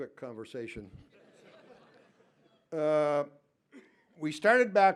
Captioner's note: laughter